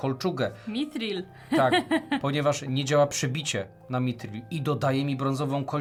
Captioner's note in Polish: śmiech